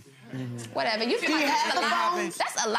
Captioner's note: gallery laughs